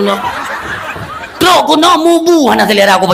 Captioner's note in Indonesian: tertawa